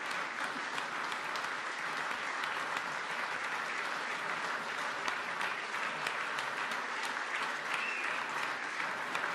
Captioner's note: applause